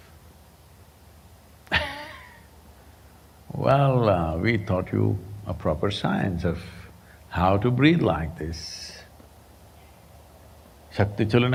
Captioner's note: laughs